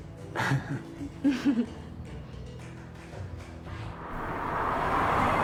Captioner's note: Trixie chuckling; Kent chuckling